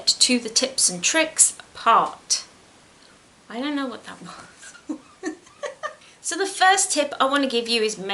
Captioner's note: laughs